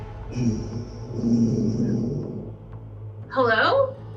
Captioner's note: echoing sound